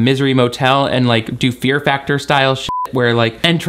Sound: beep

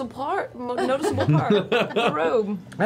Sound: laughs

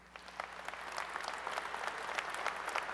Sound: applause

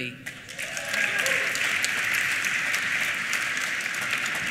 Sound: applause

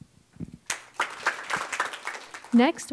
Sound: applause

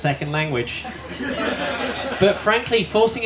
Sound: laughter

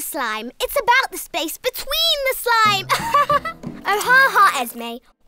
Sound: laughs

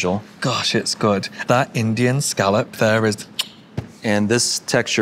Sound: kisses

